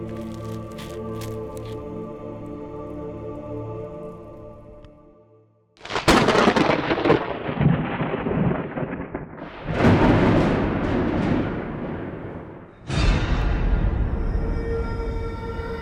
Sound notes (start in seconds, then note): 0.0 knife slicing; 5.8 thunder cracking and rumbling; 13.5 chilling music